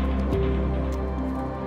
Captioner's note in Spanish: none